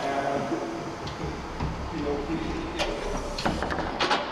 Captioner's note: people chattering